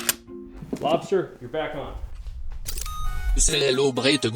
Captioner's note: Lobster beeps